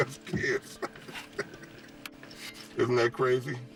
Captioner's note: laughs